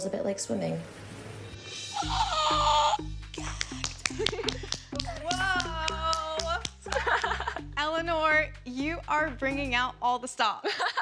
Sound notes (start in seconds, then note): 3.3 gasping